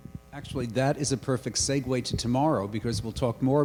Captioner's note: voiceover